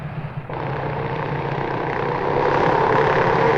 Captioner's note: engines blaring